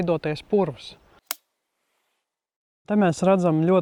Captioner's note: clapper